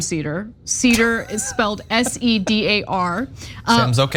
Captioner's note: laugh